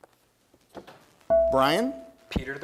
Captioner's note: bell rings